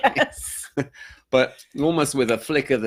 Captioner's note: both laughing